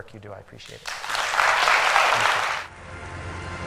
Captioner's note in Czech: Potlesk